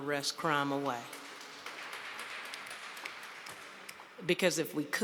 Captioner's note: audience applauds